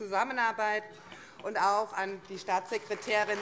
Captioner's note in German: Vereinzelter Beifall CDU und Freie Demokraten